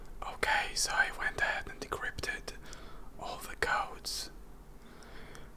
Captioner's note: whispers